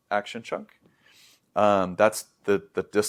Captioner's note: sniffs